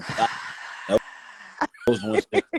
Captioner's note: laughing